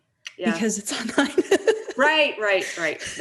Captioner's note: laughs